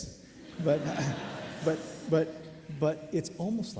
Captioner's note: audience laughing